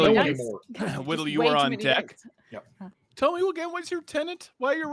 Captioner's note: group chattering